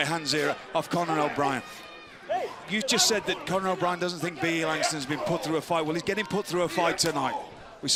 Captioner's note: crowd chatter